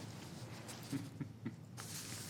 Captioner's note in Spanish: Algunas Risas